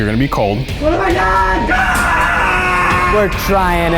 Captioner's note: screams